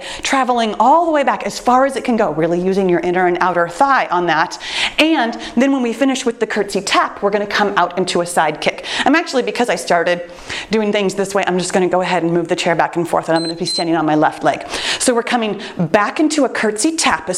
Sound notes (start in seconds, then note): 13.3 timer beeps